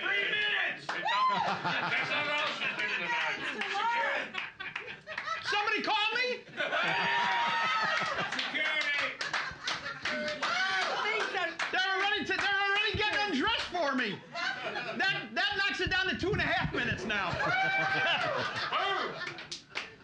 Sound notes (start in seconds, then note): 1.2 laughing; 2.7 audience shouting; 6.6 loudly laughing; 6.7 cheers and applause; 16.9 loudly laughing; 17.0 audience shouting